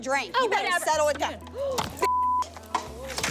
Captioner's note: gasps